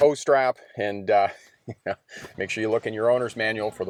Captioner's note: chuckling